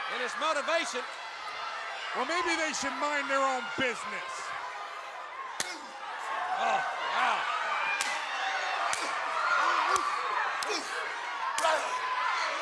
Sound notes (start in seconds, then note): 1.2 crowd clamoring; 5.5 blows thudding; 6.4 wrestlers grunting; 7.3 blows thudding